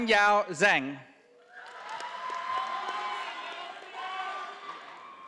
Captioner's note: audience applauding